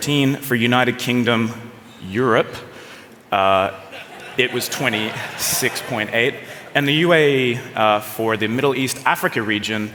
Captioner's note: laughter